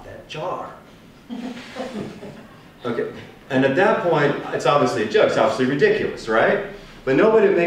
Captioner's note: chuckles